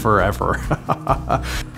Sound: laughs

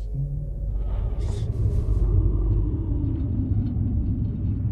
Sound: eerie whooshing

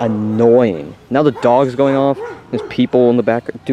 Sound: dog barking

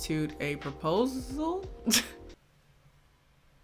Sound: laughs

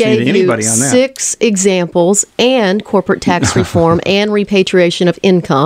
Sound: LEWIS laughs

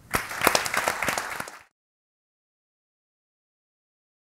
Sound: all applaud

